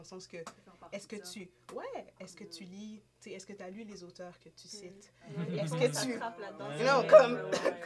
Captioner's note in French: rires